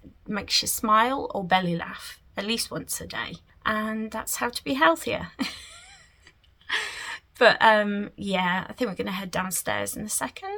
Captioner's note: giggles